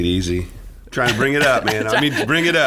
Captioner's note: laughing